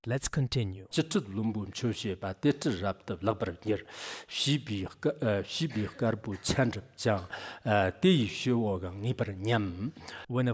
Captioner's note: giving oral transmission in Tibetan